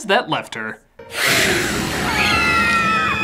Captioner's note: hiss; scream